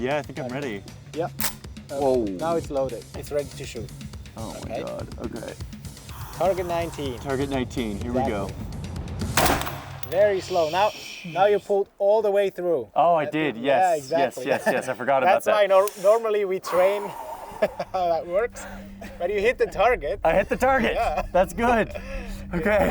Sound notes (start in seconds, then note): 1.3 gun cocks; 9.3 gun fires